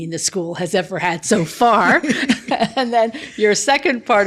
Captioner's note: both laughing